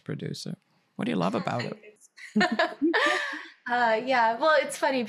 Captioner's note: laughing